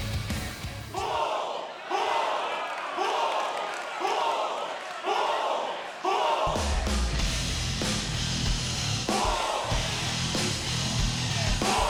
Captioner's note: fans chanting bull